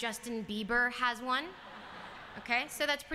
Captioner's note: laughter